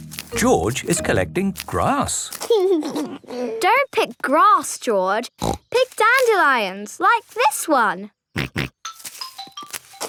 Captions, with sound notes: George is collecting grass. (giggling) - Don't pick grass, George. (snorting) Pick dandelions, like this one! (snorting)